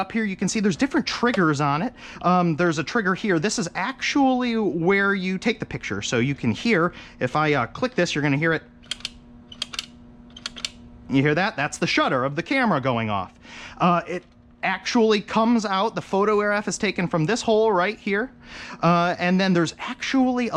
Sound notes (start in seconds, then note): 9.5 camera clicking